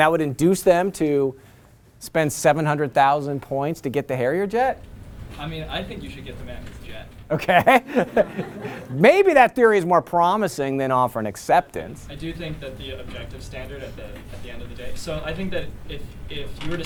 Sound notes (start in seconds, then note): 7.3 laughter